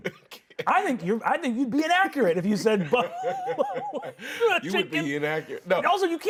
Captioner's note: laughs